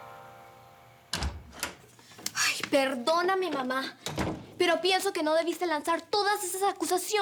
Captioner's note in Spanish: Sonido al abrir la puerta